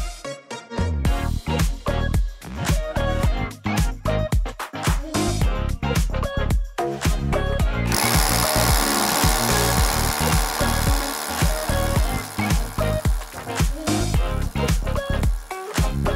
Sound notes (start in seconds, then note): 0.2 upbeat music; 7.9 drill whirring